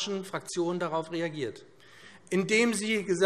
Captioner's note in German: none